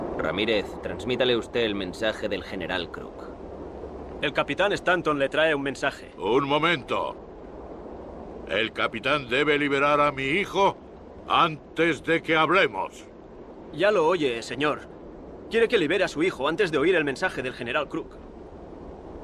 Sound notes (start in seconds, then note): 4.3 Ramirez speaks Spanish; 6.7 Victorio speaks Spanish